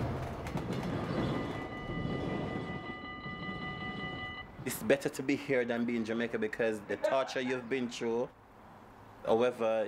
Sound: bell ringing

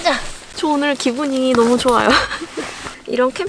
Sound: laughs

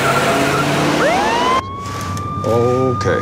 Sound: siren wailing

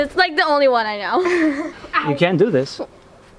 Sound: laughs

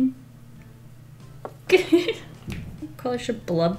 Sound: giggles

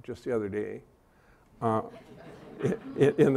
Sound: laughter

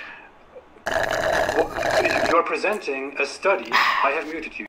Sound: straw drink sound effect

